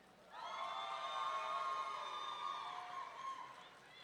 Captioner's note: audience cheering